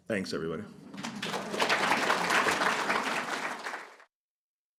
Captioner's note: applause